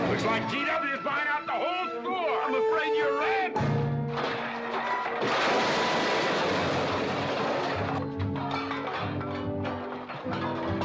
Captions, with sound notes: - Looks like GW is buying out the whole store! - I'm afraid you're right! (loud crash)